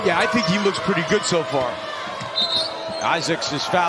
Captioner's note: whistle